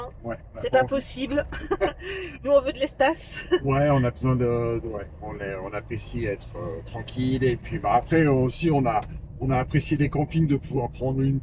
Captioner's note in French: rires